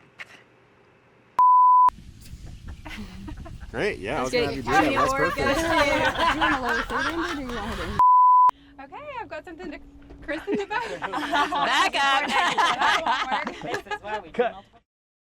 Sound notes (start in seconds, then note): 5.8 everyone laughing; 13.7 laughs